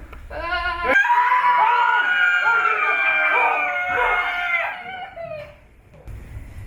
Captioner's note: everyone screams